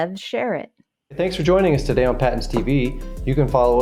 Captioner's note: male Voice